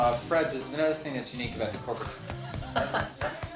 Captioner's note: laughs